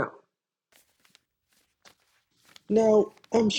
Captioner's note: stacks of paper being passed around